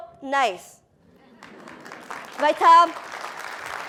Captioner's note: applause